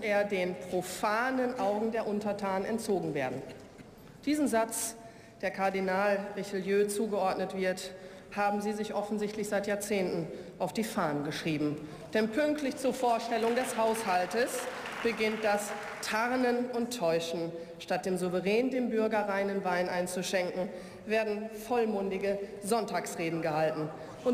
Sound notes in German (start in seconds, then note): 13.1 Beifall